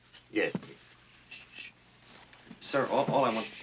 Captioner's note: shushes; shushes